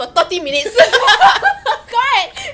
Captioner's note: laughs